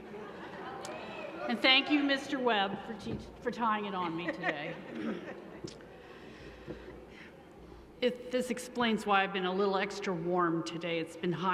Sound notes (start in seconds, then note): 4.0 laughter